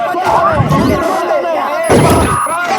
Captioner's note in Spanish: chasquidos electrónicos